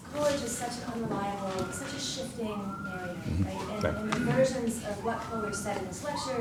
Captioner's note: alarm blaring over student talking